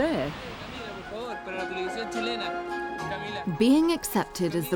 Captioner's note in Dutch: man spreekt in vreemde taal